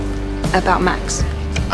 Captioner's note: voiceover